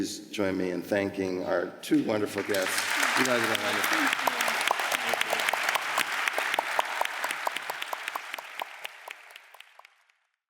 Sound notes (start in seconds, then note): 2.1 audience applause